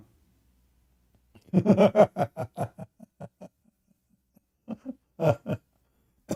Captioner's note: Ketawa